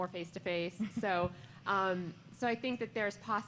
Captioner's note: laughter